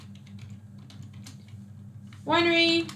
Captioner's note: keyboard clicks